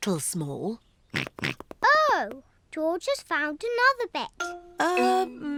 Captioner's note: snorts